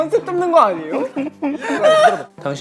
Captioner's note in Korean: 호흡 곤란